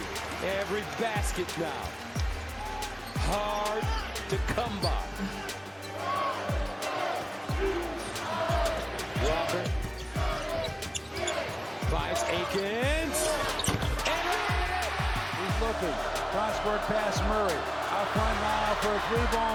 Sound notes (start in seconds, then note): 10.6 crowd; 14.7 crowd cheers